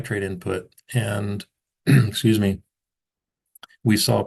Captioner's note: throat clears